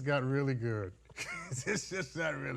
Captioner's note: judge laughing